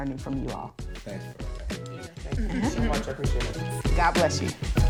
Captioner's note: all mumbling